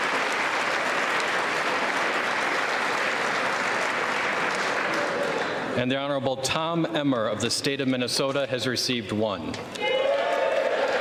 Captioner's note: applause